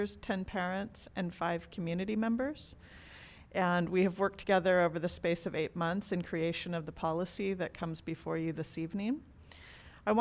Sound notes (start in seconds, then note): none